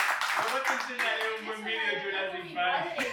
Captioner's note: applause